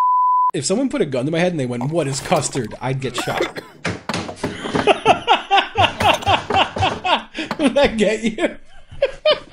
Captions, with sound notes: If someone put a gun to my head and they went... "what is custard?" *choking* I'd get shot. I'd get shot. *laughs* Did that get you?